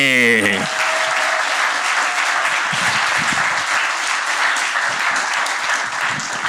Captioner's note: cheers and applause